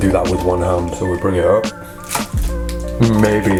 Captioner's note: snaps